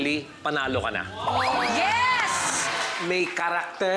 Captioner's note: crowd